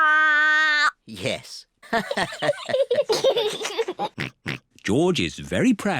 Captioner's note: all laugh